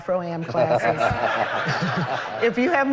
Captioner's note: laughter